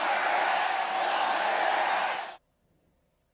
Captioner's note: crowd chanting